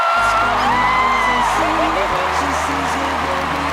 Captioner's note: cheering